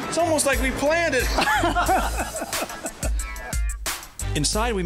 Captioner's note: both men laughing